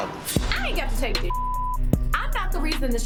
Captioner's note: beep